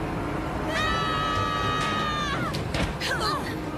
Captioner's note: all yelling